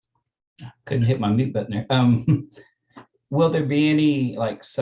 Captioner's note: chuckles